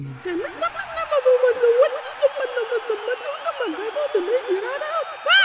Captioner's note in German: crowd jubelnd; gemurmelte ankündigung